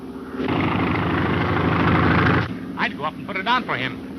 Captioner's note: engine roaring